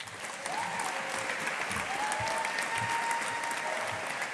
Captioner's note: audience applauding